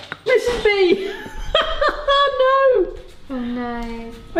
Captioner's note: clattering; laughs